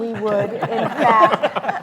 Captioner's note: laughing